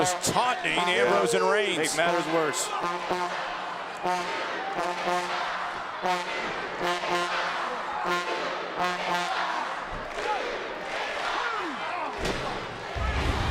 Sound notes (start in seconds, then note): 4.1 audience chanting; 4.1 trombone blaring